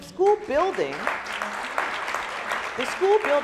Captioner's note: applauding